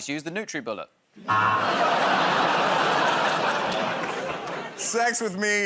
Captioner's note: audience "Oh"s